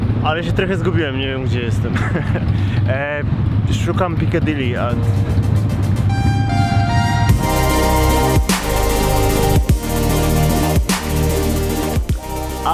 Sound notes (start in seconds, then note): 1.9 chuckle